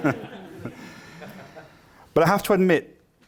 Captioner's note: laughter